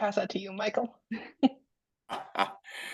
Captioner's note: laughs